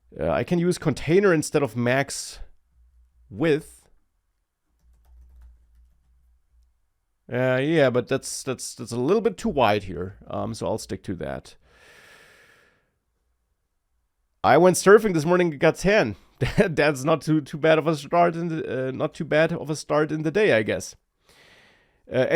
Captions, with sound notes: uh, I can use container instead of max width. Uh, yeah, but that's, that's, that's a little bit too wide here, um, so I'll stick to that. I went surfing this morning and got tan. (laughs) Tha- that's not too, too bad of a start in the, uh, not too bad of a start in the day, I guess. Uh,